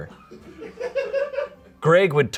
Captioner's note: audience laughing